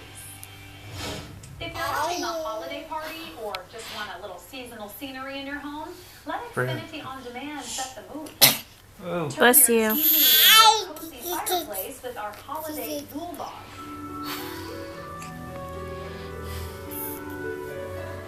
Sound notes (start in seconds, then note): 2.4 cooing; 8.4 sneezes; 9.9 cooing